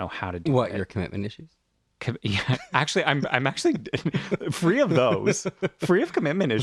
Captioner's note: laugh